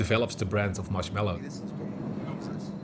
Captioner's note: indistinct chatter